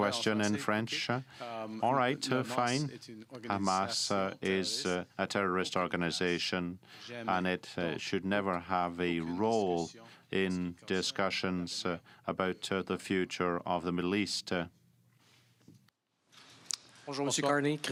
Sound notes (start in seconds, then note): 1.3 speaking french